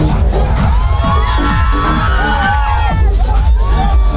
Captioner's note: crowd cheers